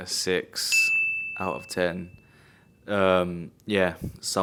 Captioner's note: bell dinging